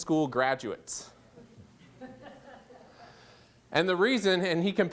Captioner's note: laughter